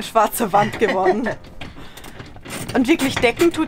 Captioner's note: laughs